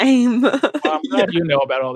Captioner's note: laughs